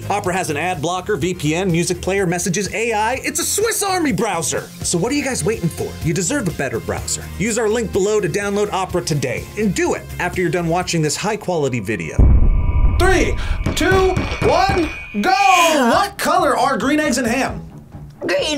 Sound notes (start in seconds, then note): 12.2 explosion echoes